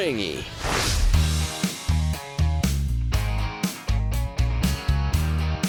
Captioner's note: swooshing; relaxed rock music